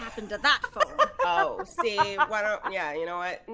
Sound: laughing

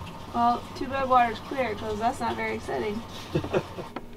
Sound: boat engine running

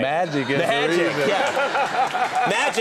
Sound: applause and laughter

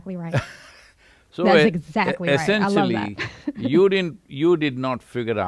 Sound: Sadhguru laughs; laughs

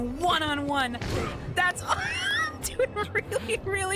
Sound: wheeze

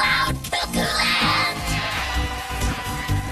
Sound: all cheering

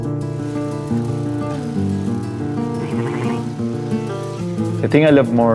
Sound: sheep bleating; bicycle chain tinkling

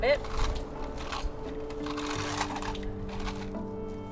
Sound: coins clink

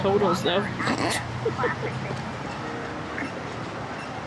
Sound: laughs

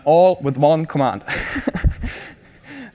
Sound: laughing

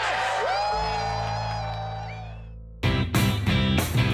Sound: cheering

